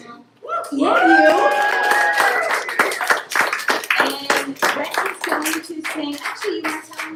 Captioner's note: applause